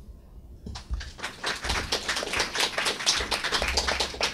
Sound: clapping

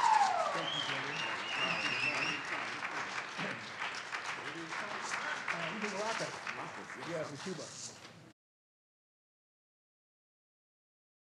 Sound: audience cheers

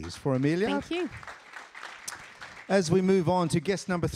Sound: applause

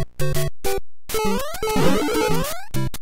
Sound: overworld music; jump sound; jump sounds

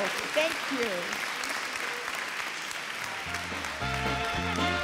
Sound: audience cheering

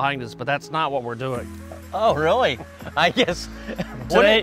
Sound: laughs

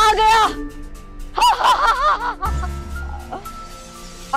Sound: laughing

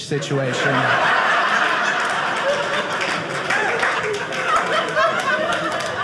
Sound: audience laughing

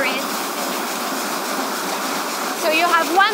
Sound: machinery whirring

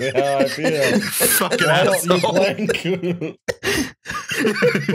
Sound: laughter

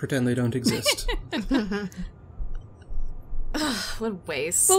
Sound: laugh

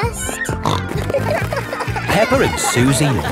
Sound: snorting

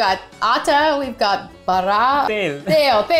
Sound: speaking in Hindi

